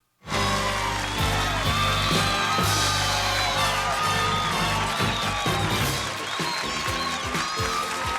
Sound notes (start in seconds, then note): 0.2 cheering and applause